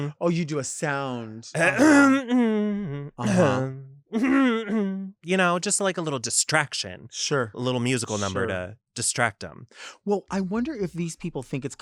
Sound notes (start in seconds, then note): 2.0 hums